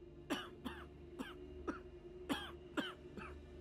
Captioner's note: coughing